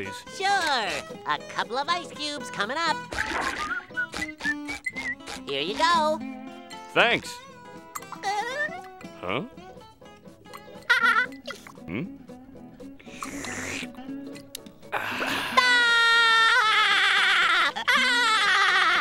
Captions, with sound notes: Sure, a couple of ice cubes coming up. [whistling] Here you go. Thanks. [giggling] Huh? [giggling] Hmm? [slurping] [laughing]